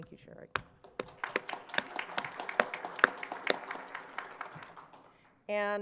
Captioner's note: applause